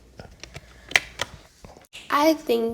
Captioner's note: paper flapping